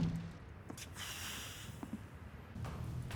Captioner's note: exhales strongly